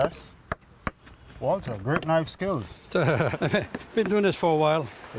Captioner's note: laughs